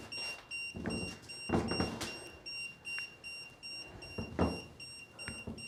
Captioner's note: EMF meter beeping